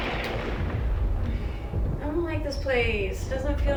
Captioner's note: thunder rumbling